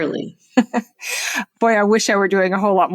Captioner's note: chuckles